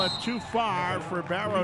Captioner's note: referee whistling